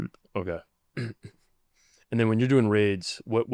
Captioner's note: clears throat